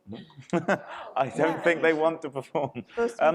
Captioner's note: chuckles